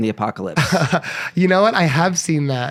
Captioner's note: laughs